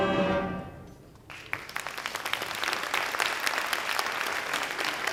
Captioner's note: audience applauds